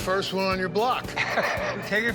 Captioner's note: chuckling